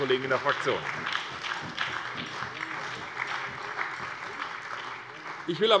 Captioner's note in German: Beifall bei der SPD und bei Abgeordneten der CDU